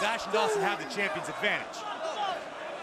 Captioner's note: crowd chatter